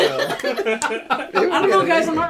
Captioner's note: giggles